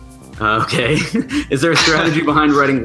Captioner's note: laughs